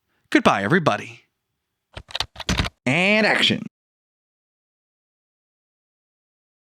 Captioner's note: typing